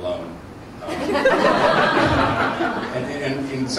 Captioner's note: laughter